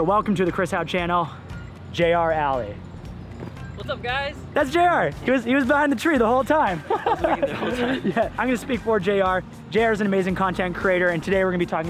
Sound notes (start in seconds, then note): 6.7 laughs